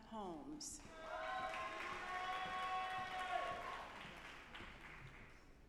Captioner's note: audience applauding